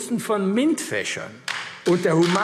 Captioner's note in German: Beifall AfD